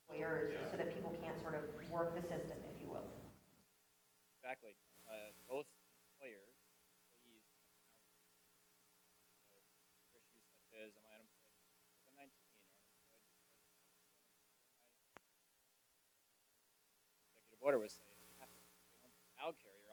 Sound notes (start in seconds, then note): 2.7 away from the mic